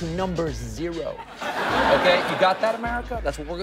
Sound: audience laughs

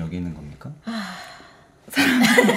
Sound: sigh

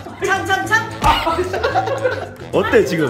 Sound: slap!!!

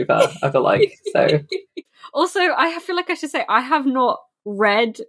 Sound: laughs

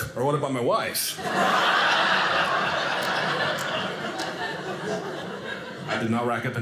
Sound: audience laughing

